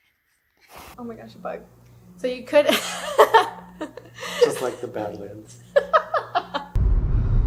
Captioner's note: laughs